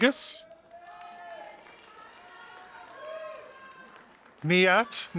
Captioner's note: audience applauding